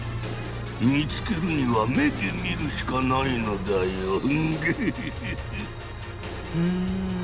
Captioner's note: evil chuckle